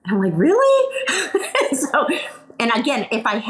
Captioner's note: laughs